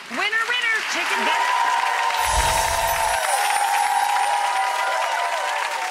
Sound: audience applauds and cheers

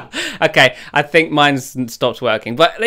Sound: laughs

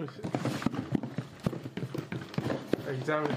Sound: box rattles

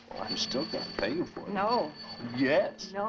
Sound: phone ringing

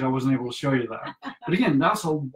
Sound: laughing

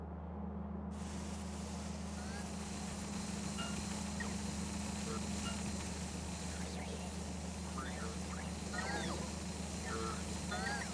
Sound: loud machine sounds

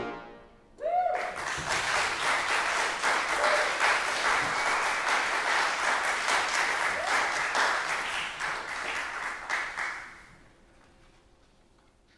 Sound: applause

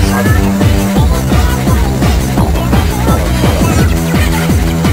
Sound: ToonTown cog speaking, then grunting twice

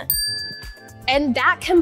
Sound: bell dings

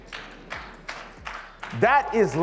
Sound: audience claps

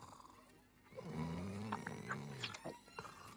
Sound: dragon snores

